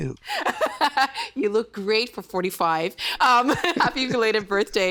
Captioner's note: laughing